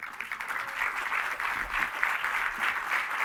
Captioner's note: applause